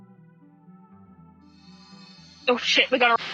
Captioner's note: sparkling